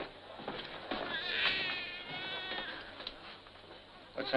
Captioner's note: baby crying